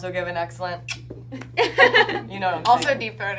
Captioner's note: clicks tongue